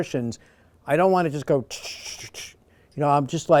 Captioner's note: makes clicking noises